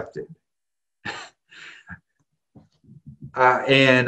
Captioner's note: laughs